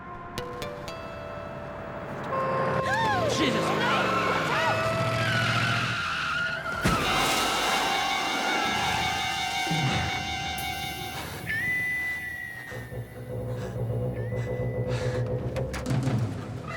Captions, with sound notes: - Jesus! - Rene, watch out! (tires screeching) (suspenseful music)